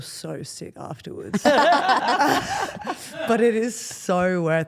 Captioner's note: Steph and Elyse laugh